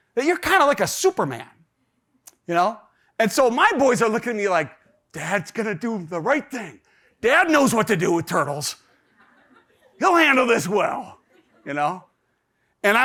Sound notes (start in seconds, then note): 9.0 audience laughs